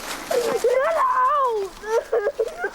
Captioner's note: screams